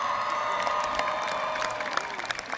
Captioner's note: applause